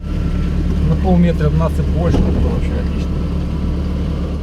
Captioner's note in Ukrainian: Голос за кадром